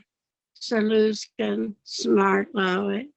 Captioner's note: speaking Yakama